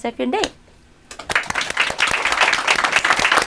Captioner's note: applause